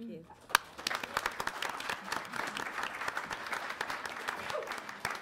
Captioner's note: audience applauds